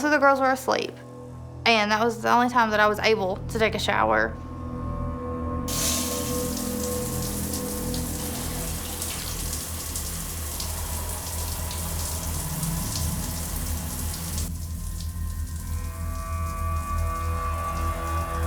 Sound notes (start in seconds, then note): 6.7 water spraying